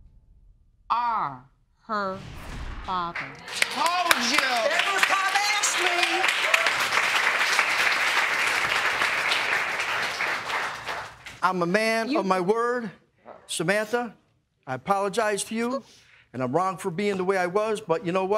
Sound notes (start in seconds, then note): 2.7 audience clapping